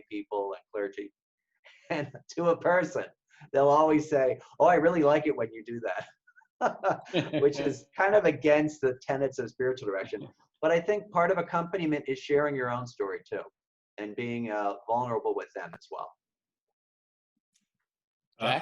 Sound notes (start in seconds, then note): 6.7 laughing